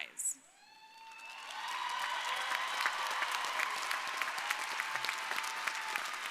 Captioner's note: crowd cheering; crowd applauding